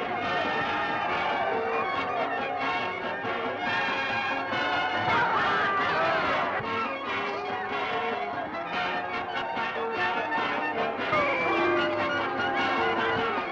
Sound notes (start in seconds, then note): 0.2 upbeat music; 2.6 jeering; 11.3 booing